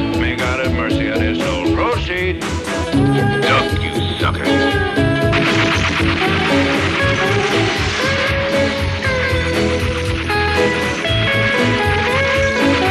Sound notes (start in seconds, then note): 5.2 gunfire; 9.2 instrumental continues